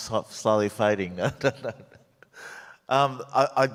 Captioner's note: laughs